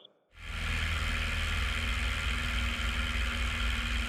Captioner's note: plane rumbling